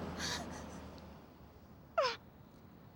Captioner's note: sobbing